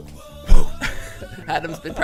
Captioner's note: laughing